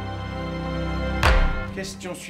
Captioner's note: thuds